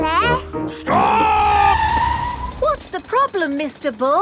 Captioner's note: tires screeching